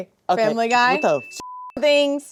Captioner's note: beep